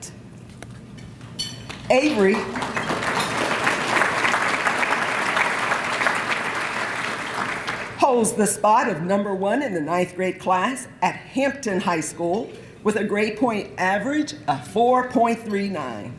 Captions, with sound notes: Avery, (applause) holds the spot of number one in the 9th grade class at Hampton High School with a grade point average of 4.39.